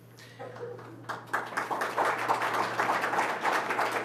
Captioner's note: applause